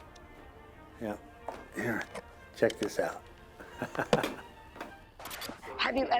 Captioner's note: laughs